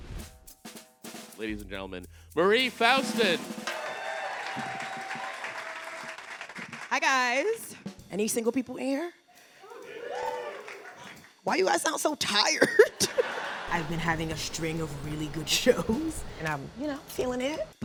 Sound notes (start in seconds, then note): 1.0 snare drum beating; 2.6 audience clapping; 2.6 audience cheering; 9.6 audience exclaiming; 12.8 audience laughing